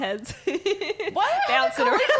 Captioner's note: laughing